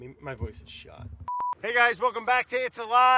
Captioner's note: film reel beeping